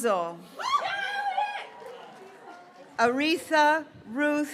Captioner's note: graduates cheering